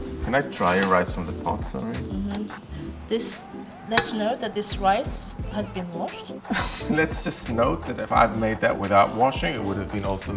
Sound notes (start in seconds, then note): 6.3 laughs